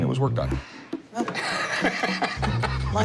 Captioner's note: laughs